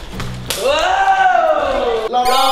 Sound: yells

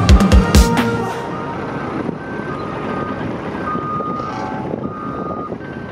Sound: sounds of roll-off truck backing up

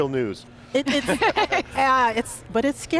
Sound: laughter

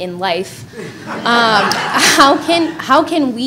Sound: audience laughing

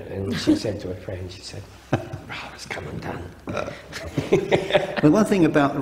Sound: laughing

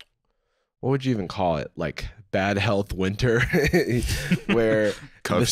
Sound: chuckles

